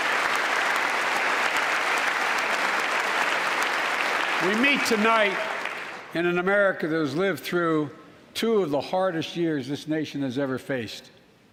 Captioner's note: applause